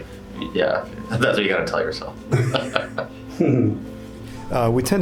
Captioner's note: chuckling